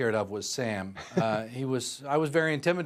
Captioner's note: laughter